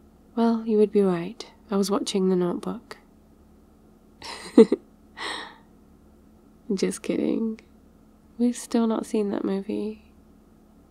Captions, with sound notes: well, you would have been right I was watching The Notebook *laughs* just kidding we've still not seen that movie